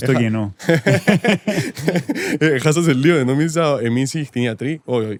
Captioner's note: laughter